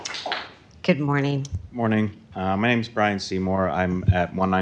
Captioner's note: applause